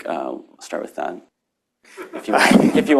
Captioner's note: laughter